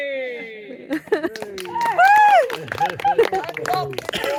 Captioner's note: cheering; cheering and applause